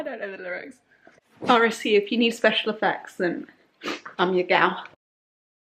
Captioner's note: sniff